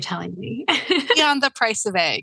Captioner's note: laughs